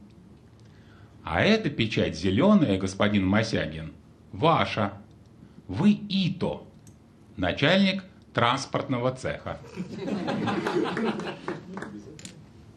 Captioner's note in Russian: смех